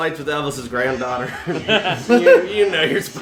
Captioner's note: laughter